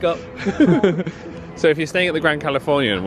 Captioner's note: pair laughs